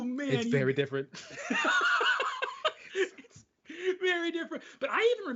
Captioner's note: laughing